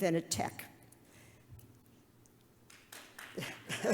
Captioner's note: audience applause; Ms. Liskov laughs